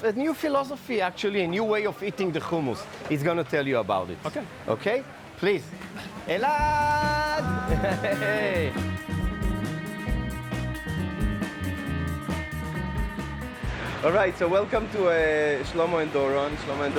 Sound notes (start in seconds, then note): 6.6 laughing